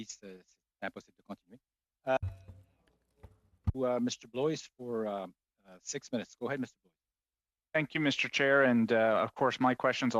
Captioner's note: speaking French